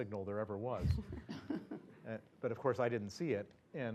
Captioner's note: laugh